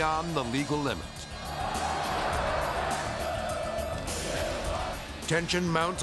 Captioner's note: crowd cheering